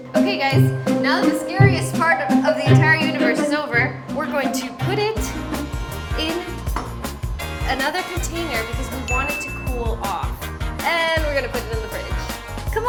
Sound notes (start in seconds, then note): 9.0 bell dings